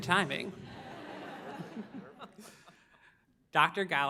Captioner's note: audience laughs